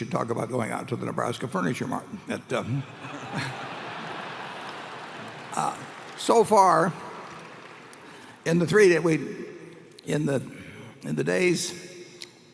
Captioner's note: laughter